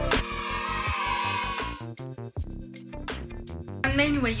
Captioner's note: children cheering